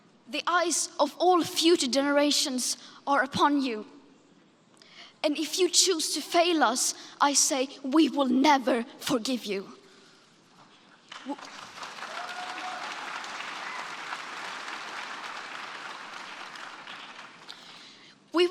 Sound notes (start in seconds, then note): 11.1 smattering of applause